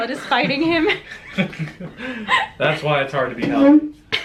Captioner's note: laugh